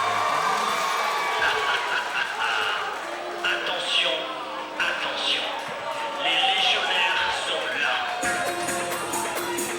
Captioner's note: cheers & applause